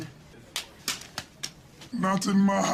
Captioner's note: paper crackling against table and woman